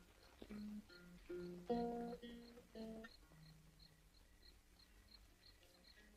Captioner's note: acoustic guitar music; crickets chirp